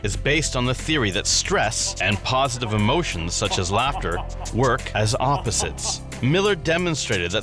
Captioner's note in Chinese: 如大笑